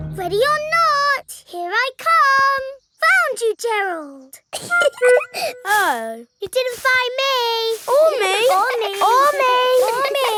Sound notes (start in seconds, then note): 4.5 giggling